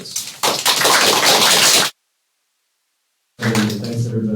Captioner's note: applause